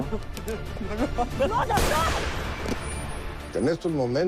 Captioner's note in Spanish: Disparo